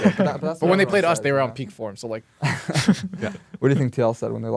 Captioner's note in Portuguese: risos